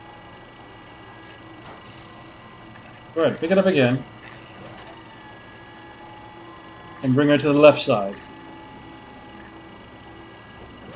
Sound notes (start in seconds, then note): none